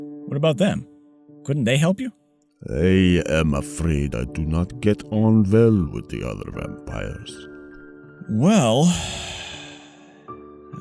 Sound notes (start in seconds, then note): none